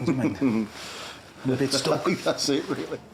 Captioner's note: chuckles